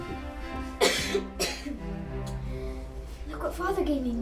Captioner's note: coughing